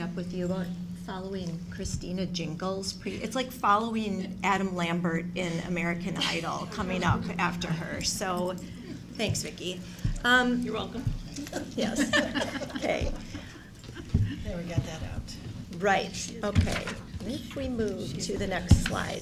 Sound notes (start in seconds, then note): 11.3 laughing